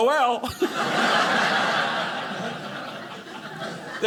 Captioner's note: audience laughing